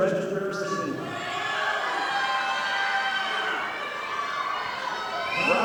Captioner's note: audience applauding